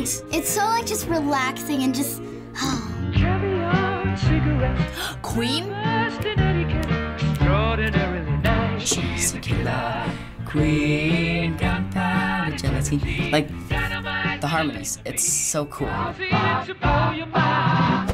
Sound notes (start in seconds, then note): 2.2 sighing; 4.8 gasping; 8.9 singing along